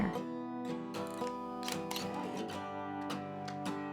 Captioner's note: camera shutter clicking